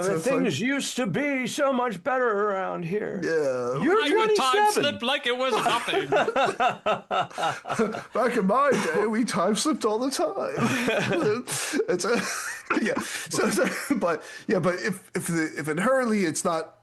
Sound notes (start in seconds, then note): 7.2 laughing; 12.5 laughing